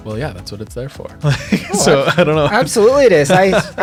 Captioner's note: chuckles